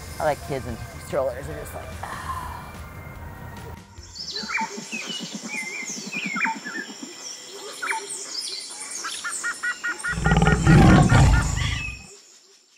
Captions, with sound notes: I like kids in strollers. They're just like, ah. (birds chirping) (tiger growls)